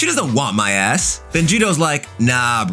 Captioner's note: air whooshing